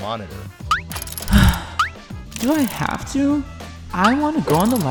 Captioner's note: sigh